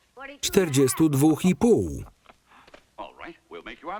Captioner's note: laughing